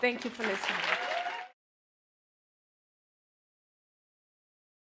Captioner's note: audience cheering